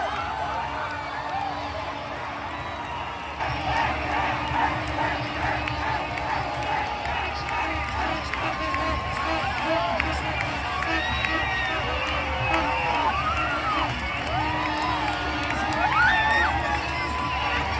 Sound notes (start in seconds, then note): 0.0 cheering; 0.0 screaming